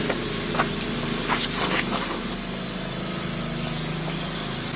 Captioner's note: papers shuffle